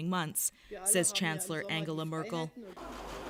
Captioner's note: speaking Foreign Language